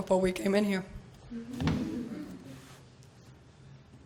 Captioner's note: laughter